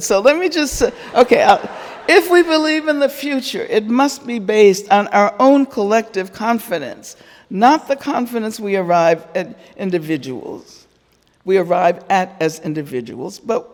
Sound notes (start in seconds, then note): 1.0 audience laughing